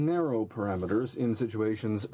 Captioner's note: speaking French